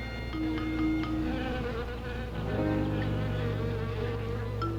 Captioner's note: buzzing